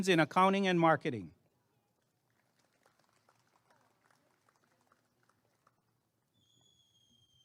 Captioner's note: applause and cheering